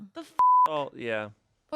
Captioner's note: beep